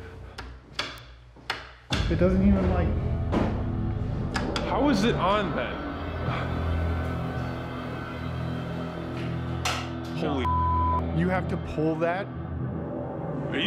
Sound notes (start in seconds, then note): 0.7 switches clicking; 9.0 switch clicking